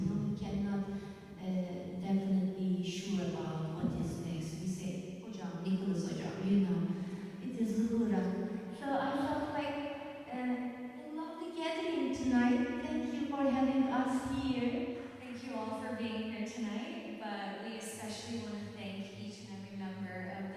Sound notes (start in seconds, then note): 5.2 non-english speech